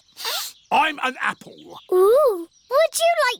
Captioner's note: sniffs